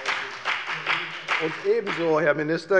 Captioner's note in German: Beifall bei der FDP